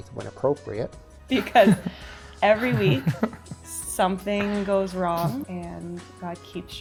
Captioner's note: laughs